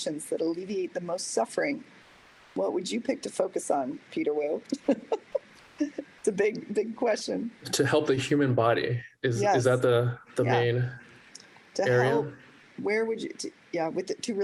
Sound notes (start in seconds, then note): 4.7 laughter